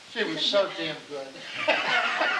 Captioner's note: laughing